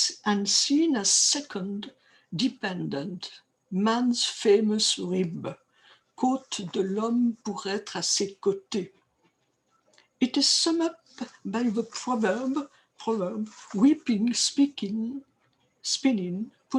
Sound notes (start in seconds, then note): 6.1 speaking french